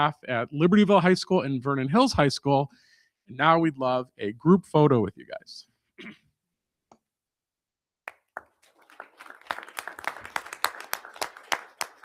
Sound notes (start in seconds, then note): 8.1 crowd applauding